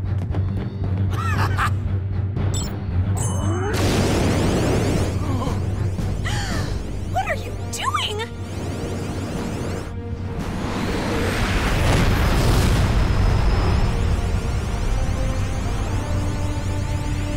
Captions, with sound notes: [GASPS] What are you doing?!